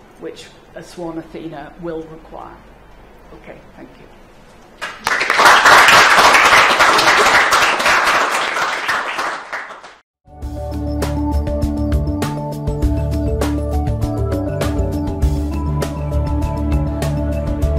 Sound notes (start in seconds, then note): 4.8 clapping; 10.3 gentle music